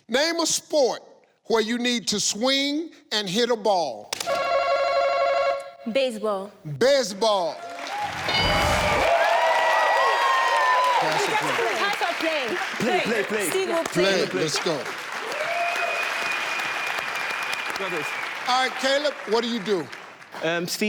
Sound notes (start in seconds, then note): 4.2 telephone sound; 7.7 audience cheers; 15.3 audience cheers